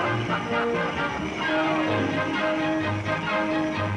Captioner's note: bells jingling